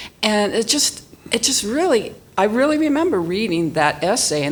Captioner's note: none